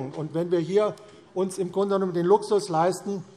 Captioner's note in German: none